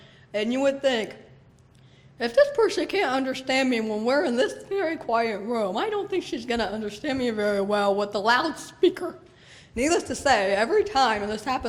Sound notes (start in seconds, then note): none